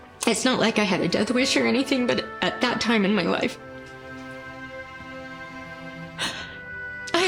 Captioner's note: sniffles